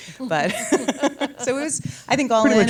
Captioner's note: laughs